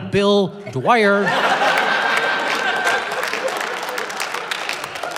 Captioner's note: applause, laughter